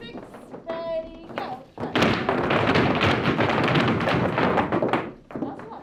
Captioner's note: floorboard clanking